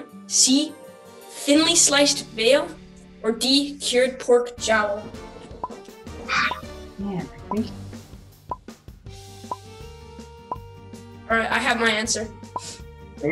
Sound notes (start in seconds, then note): 7.4 timer count down